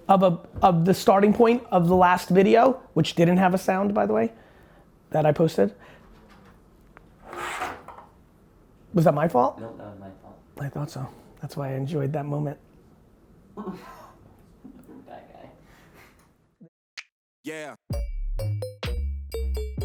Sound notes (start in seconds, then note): 13.1 laughing; 17.4 hip hop music